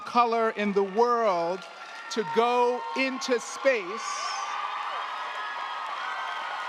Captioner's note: crowd cheering